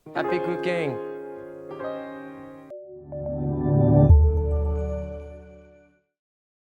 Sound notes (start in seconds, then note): 1.8 soft slow music; 2.7 logo swooshing